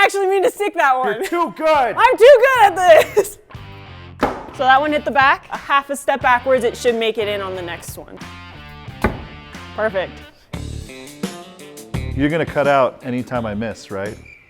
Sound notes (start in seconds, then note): 4.2 ax striking; 8.9 ax striking; 14.2 crickets chirping